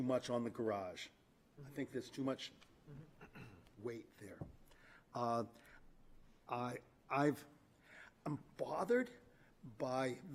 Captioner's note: clears throat